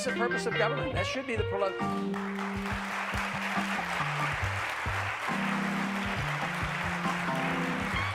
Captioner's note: applause